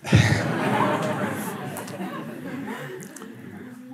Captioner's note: Lachen